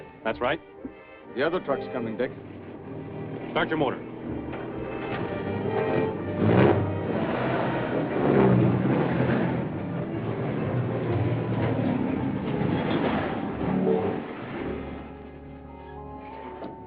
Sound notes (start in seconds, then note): 3.6 suspenseful music; 5.8 truck whirring